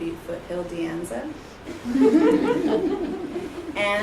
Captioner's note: laughter